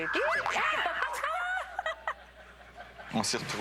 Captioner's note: rires